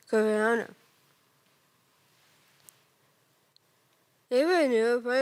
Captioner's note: rustling